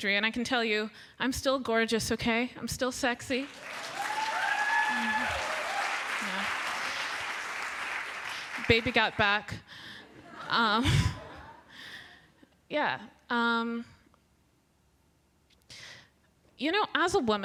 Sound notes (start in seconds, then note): 3.3 applause